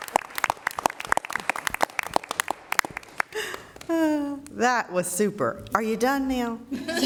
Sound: applauding

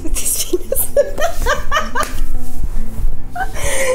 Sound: laughing

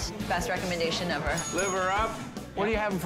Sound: bell dinging

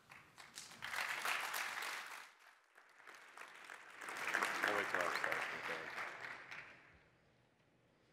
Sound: applause

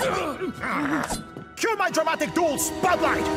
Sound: grunting; growling

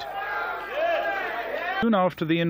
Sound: yelling

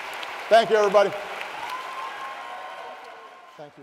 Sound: applause

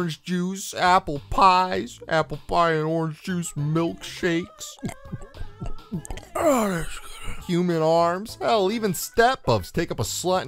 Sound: gulp

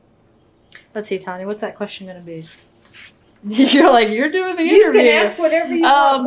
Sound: laughs

